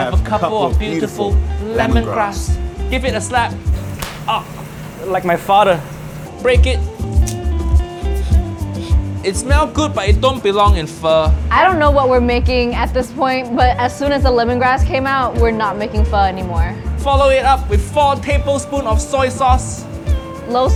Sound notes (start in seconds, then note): 3.8 lemongrass thudding; 7.5 lemongrass clinking